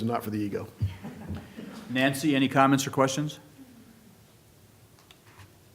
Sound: laughter

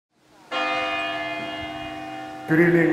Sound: bell rings

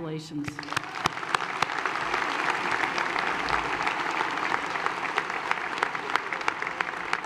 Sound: applause

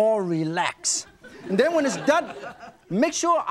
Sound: audience chuckles

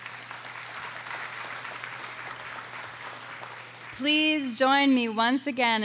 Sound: audience applauding

